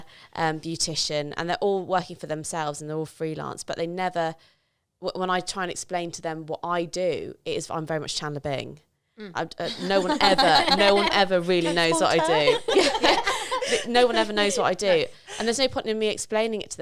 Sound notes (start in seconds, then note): 9.6 laughing